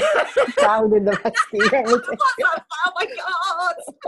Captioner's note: laughing